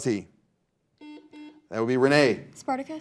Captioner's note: buzzer buzzing